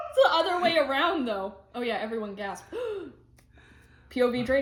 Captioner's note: gasps